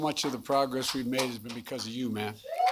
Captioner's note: applause